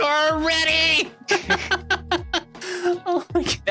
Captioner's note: laughing